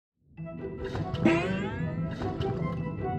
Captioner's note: pumpkin gurgling